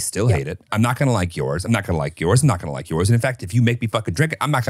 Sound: laughs

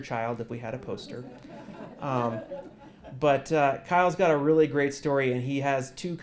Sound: laugh

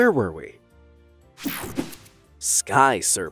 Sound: logo snaps

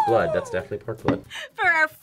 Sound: gasps

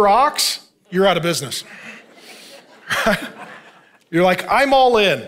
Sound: congregation laughing

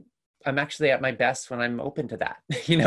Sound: chuckles

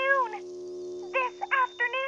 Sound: echoing

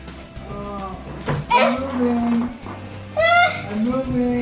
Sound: gasps

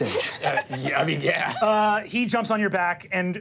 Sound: laughs

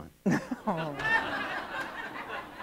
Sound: laughter

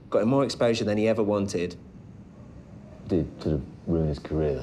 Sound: none

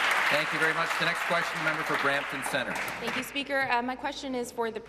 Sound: applause

